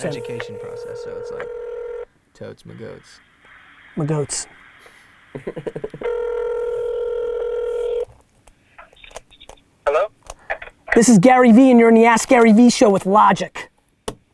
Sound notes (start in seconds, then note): 5.3 laughs; 6.0 telephone rings